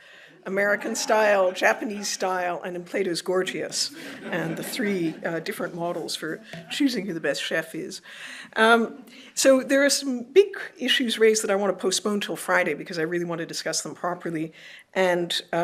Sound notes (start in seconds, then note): 3.8 laughter